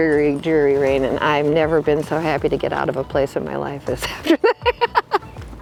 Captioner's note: laughs